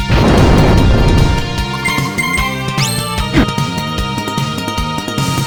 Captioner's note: death warp